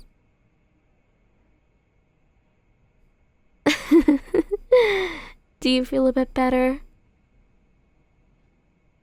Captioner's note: soft laugh